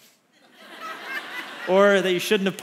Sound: congregation laughs

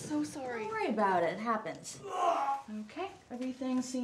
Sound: Bradley vomits off screen

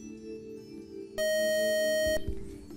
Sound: buzzer

